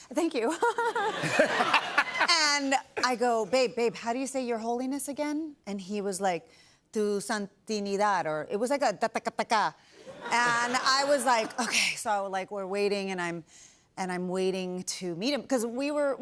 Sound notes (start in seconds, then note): 0.4 laughter; 6.8 speaking Spanish; 10.0 laughter